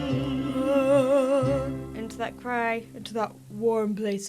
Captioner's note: mimics singer